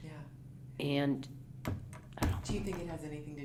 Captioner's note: pat